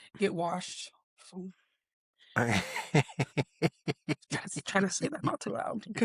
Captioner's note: laughs